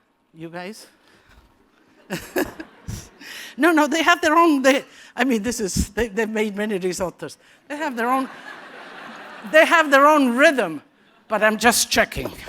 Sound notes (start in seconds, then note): 1.9 laughter; 8.1 laughter